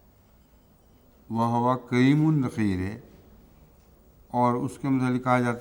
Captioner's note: Arabic